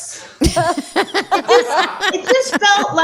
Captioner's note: laughs